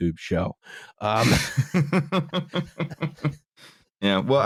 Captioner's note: laughter